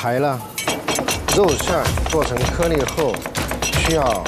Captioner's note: rhythmic Cleaver-Back Pounding